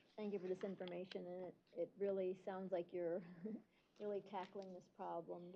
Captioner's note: chuckle